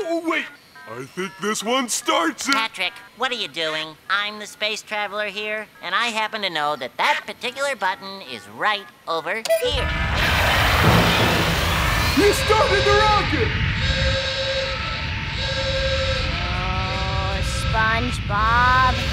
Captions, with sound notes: Wait, I think this one starts it! Patrick, what are you doing? I'm the space traveler here, and I happen to know that that particular button is right over here. [alarm sounding] You started the rocket! [steaming] Oh, SpongeBob!